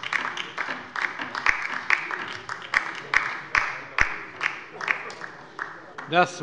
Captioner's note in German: Beifall bei der LINKEN